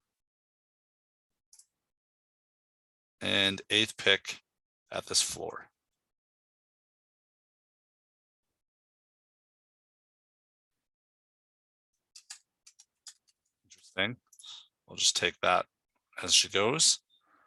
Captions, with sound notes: and eighth pick at this floor. (mouse clicking) Interesting. I'll just take that as she goes.